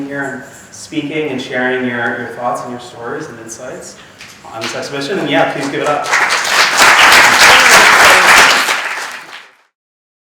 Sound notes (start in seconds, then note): 7.2 audience clapping